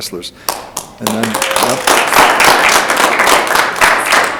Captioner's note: audience applauds